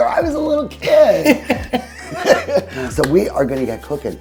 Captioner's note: all laugh